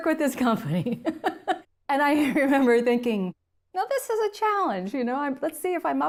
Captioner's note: laugh